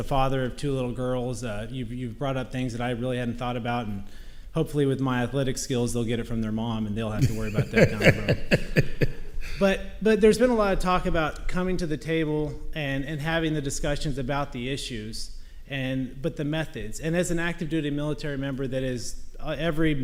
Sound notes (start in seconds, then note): 7.2 laughing